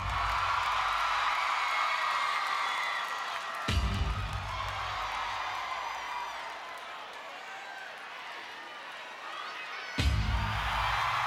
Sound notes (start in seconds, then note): 2.1 crowd screams